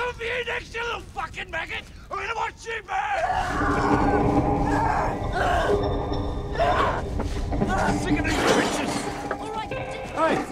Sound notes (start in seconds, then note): 3.3 Eddy grunting; 3.3 ominous music